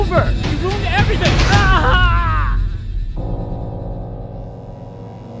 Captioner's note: man screaming